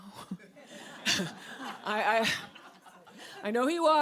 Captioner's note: audience laughs